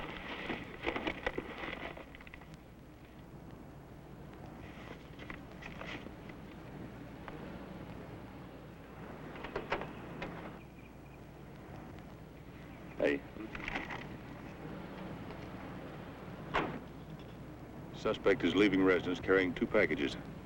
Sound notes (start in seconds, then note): 16.5 car door thuds